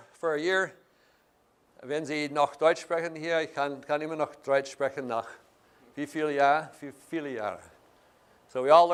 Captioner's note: speaking German